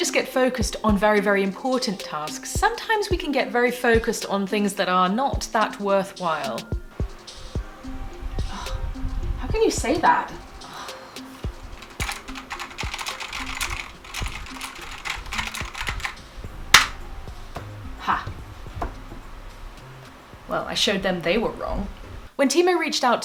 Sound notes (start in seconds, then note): 11.7 furious typing